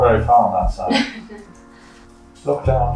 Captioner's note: chuckles